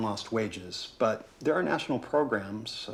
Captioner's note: none